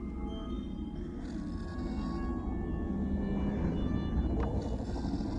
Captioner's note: eerie instrumental music; growling